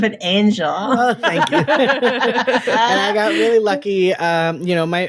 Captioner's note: all laughing